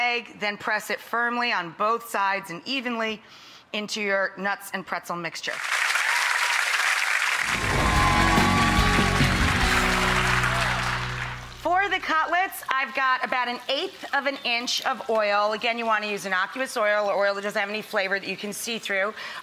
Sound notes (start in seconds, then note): 5.5 audience applauding; 7.4 upbeat music